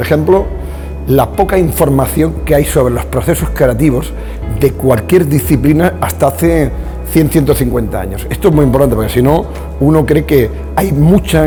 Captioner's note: speaking spanish